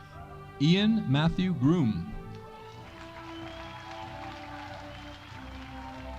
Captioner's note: audience applauding